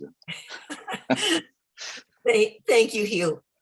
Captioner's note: laughter